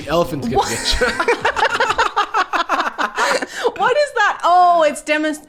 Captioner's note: laughing